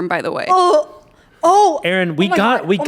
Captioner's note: gags